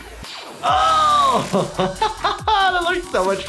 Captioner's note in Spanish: música tecno; reír